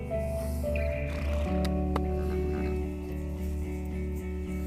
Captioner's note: horses snorting